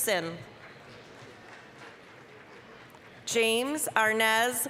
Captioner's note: applause